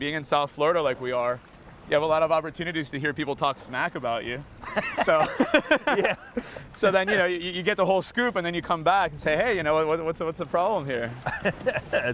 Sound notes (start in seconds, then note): 4.6 laughs